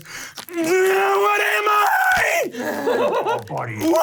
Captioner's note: groaning; laughing